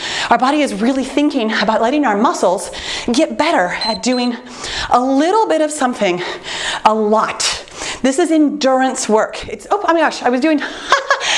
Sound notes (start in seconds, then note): 3.7 timer beeps